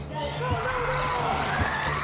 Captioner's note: agent screaming